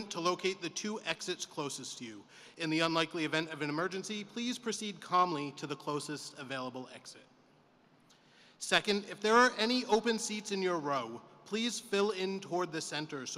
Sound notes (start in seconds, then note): none